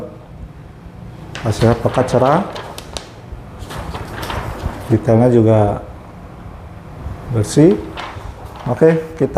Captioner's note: PET film noise; PET film noise